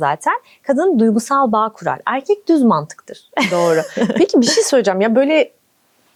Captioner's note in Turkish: kahkaha